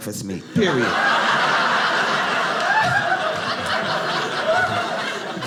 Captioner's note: audience laughing